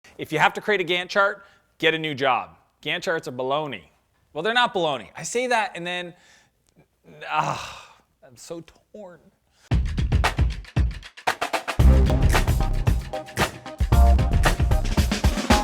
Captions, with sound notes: - If you have to create a Gantt chart, get a new job. Gantt charts are bologna. Well they're not bologna. I say that and then, (sighs), I'm so torn. (upbeat music)